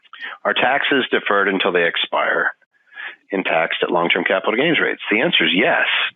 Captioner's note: none